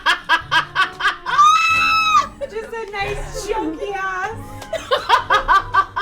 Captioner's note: all laugh; laughs